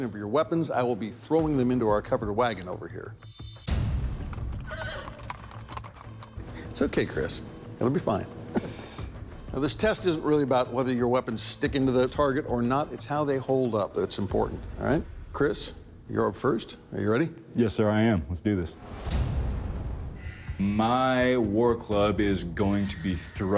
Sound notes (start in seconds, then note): 3.6 dramatic music playing; 4.2 hooves clopping; 4.6 horse whinnying